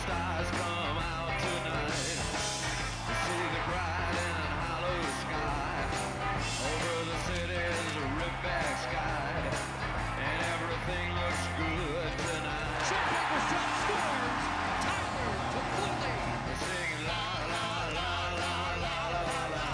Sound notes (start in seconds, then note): 11.1 cheering and Applause